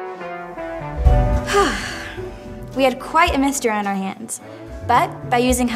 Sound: sigh

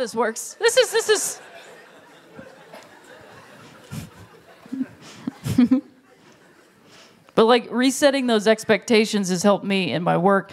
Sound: laughter

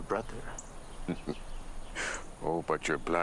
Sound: chortles

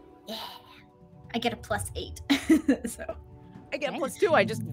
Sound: laughs

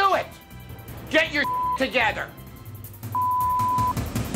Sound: beep

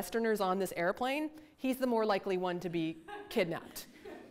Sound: audience laughter

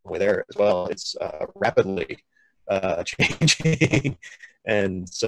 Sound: laughs

